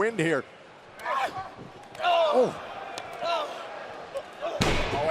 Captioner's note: crowd chatter